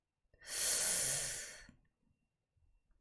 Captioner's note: sharp inhale